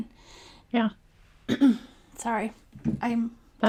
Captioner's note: clears throat